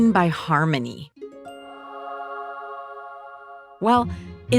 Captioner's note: epiphany sound